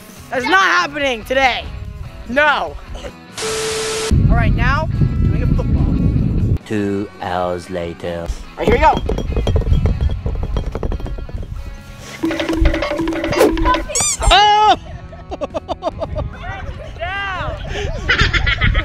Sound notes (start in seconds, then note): 12.2 timer counting down; 14.6 shouting